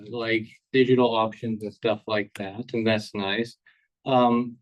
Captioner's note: none